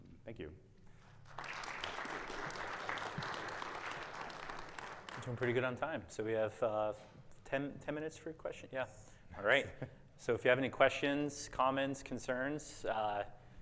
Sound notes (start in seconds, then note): 0.9 audience clapping